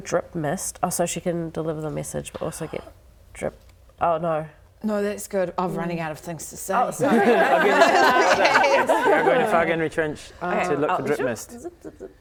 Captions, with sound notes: drip mist so she can deliver the message Noo - but also get drip Oh no No that's good I'm running out of things to say Oh sorry *laughing* You're going to Fargenri trench to look for drip mist